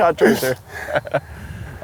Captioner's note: laughs